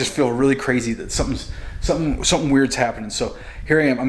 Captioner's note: stutters